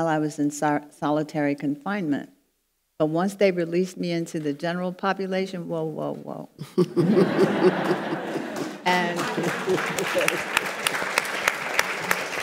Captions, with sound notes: I was in solitary confinement. But once they released me into the general population, whoa, whoa, whoa. (audience laughing) And-- (audience applauds)